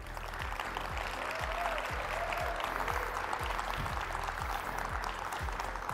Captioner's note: audience applauding; audience cheering